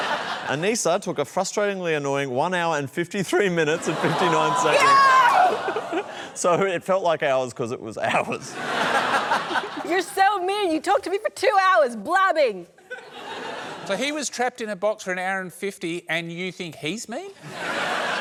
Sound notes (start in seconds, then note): 8.1 laughter